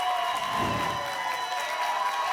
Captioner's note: applause and cheering cont; whoosh